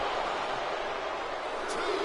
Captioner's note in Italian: Applauso